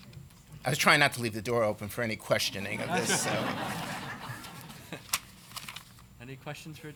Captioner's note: laughter